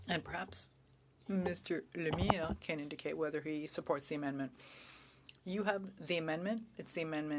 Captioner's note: speaking French